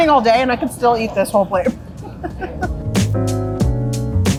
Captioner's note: chuckling; upbeat music